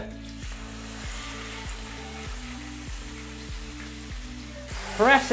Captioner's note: sizzling sound